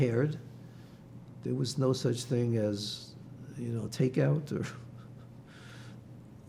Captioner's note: laughing